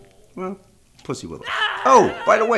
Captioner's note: man screaming